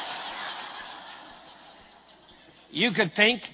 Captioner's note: risate